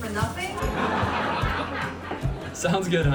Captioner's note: laugh Track {loooooooooooooooooooooooooooolololololololololol}